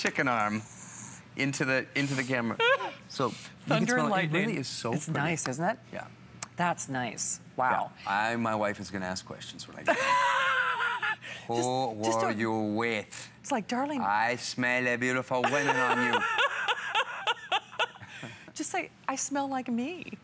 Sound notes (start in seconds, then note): 9.8 laughter